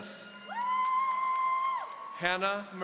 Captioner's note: audience cheering